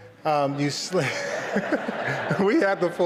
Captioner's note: laughter